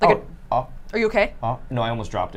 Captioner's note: gasps